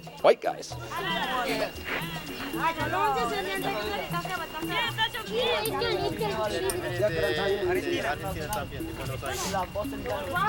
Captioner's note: foreign Language